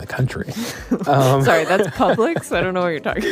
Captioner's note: both laugh